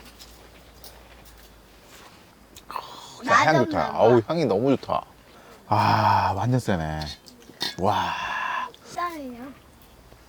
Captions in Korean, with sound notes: 나는 좋다. 아우 황이 너무 좋다. 아 완전 쎄네...(감탄)